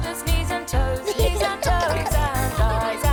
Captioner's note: giggling